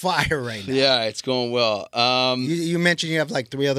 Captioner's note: laughing